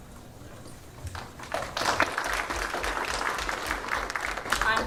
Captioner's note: applause